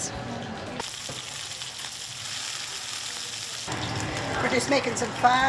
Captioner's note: sound of sizzling oil